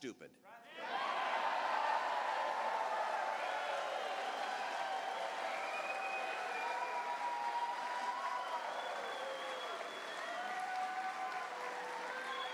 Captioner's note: cheers